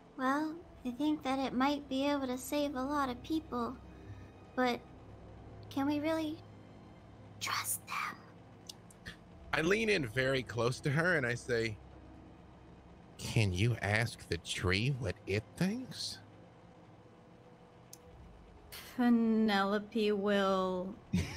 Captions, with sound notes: - Well, I think that it might be able to save a lot of people, but can we really (whispering) trust them? - I lean in very close to her and I say, "can you ask the tree what it thinks?" - Penelope will...